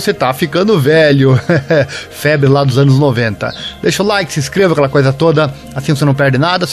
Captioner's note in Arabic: يضحك